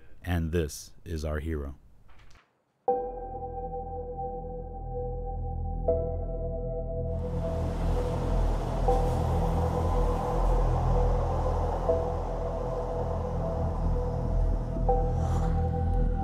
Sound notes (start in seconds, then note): 7.2 highway cars noise